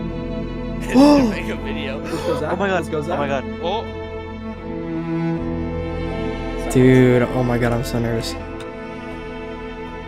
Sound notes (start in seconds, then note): 2.0 gasp